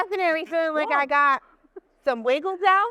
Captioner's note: chuckles